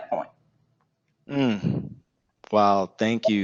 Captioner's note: Marco exclaims